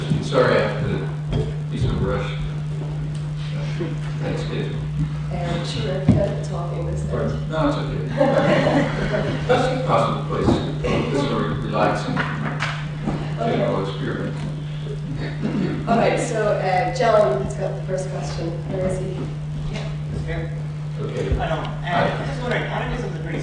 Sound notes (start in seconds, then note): 8.0 laughs